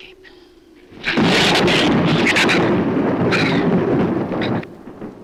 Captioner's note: thunder claps; shrew snarls